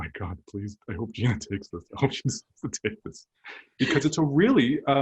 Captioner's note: laughter